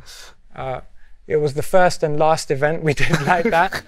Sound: laughter

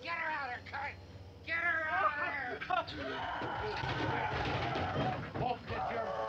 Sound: Sally screaming

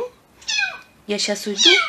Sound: kitten meows

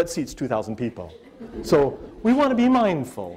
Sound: audience laughter

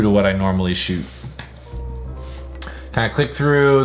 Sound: keyboard clicks

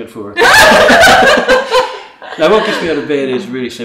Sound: laughing

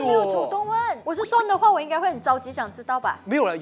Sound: worried

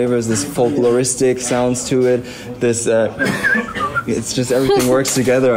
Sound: whistles the heifer Timothy

